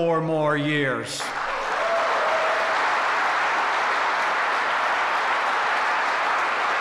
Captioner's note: applause